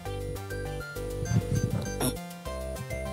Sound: blows raspberry

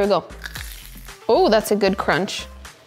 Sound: egg roll crunches

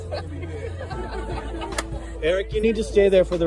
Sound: laughter

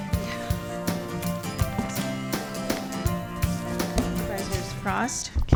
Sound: gavel

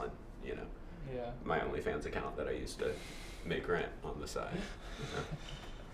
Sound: laughs

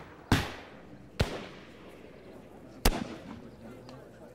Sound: gunshots

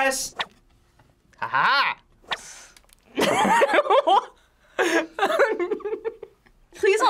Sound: laughs

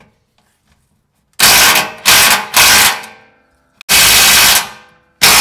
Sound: drill struggling

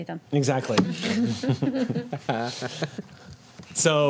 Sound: group laughs

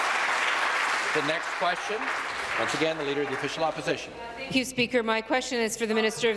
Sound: applause

